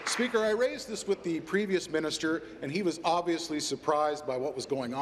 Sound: applause

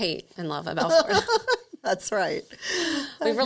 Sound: laughs

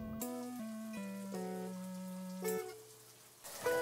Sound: shower running

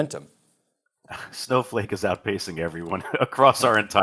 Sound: laughs

